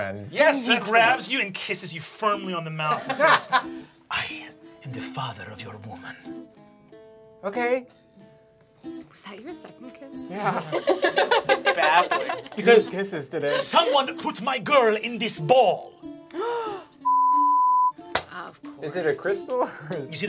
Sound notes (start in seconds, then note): 10.3 group laughing; 17.0 beeping